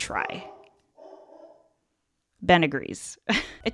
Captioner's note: Ben barks